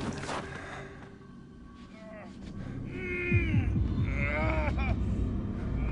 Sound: groaning

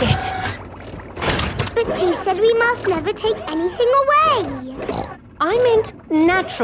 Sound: snorts

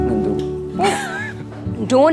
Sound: giggles

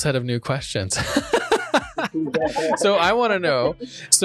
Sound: both laughing

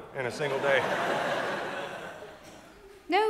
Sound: audience laughs

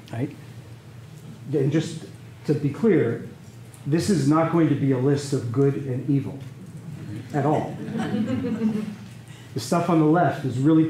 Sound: laughter

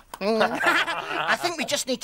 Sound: laughing

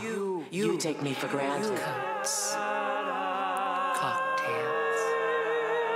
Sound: people vocalizing

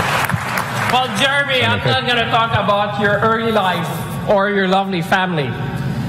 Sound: applause

